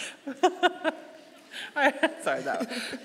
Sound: laughing

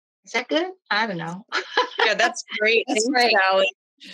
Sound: laughs

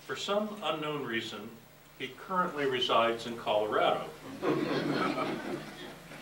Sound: laughter

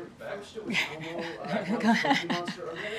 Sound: laughs

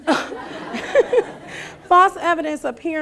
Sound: laughing

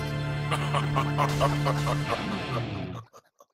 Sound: evil laughter

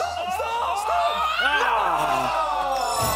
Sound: loud groaning; chiming

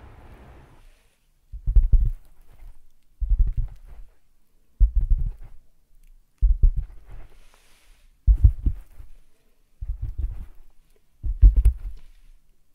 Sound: tapping with fingers

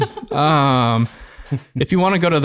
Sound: laughing

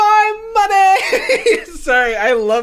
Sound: laughs

